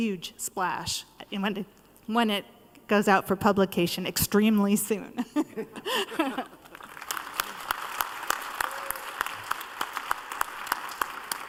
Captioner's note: applause